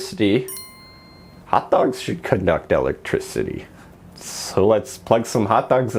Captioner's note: ding